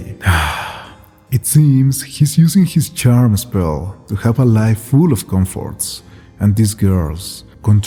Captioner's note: sigh